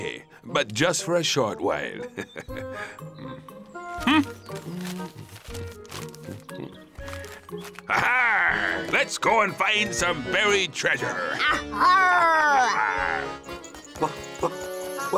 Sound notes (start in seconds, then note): 2.0 chuckles; 3.8 hums